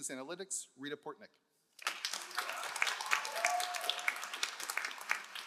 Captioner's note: all applauding